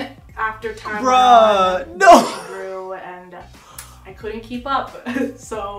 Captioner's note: laughing